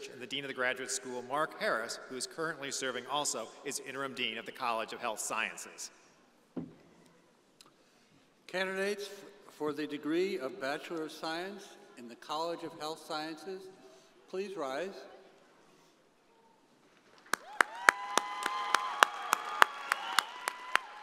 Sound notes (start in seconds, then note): 17.1 audience applauding